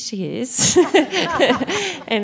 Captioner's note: laughs